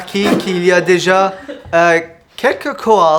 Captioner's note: laughter